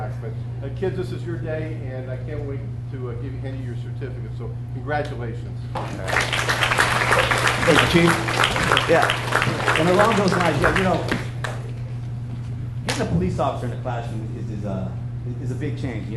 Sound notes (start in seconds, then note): 5.7 hands clap; 5.8 audience applauds